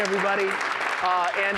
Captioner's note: applause